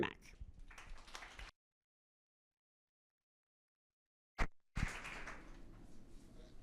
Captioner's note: attendees applauding